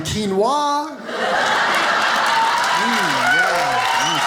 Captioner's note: audience applauding